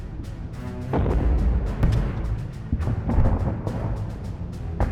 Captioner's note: weapons exploding